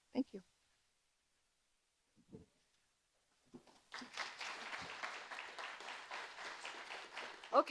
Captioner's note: audience applauding